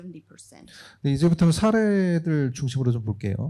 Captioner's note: speaking korean